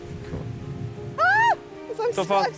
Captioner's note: bride screams